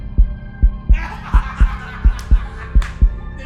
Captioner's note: cops keep laughing